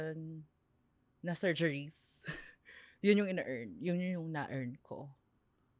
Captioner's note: laughs